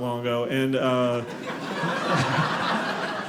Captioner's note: audience laughing